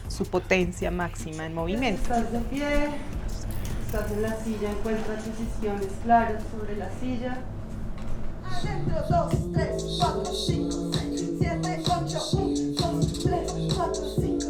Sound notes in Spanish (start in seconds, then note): none